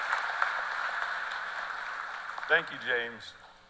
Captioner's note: cheers and applause